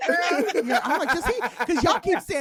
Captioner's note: laughing